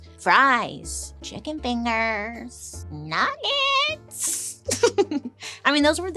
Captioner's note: chuckles